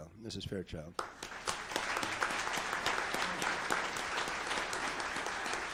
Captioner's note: audience applauds